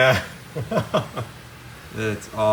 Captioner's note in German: lacht